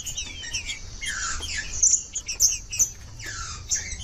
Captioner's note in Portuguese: trinca ferro cantando